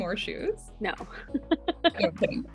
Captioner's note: laughs